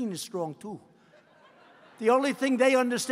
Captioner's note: laughter